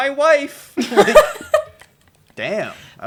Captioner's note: laughter